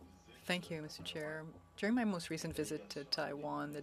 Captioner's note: speaking French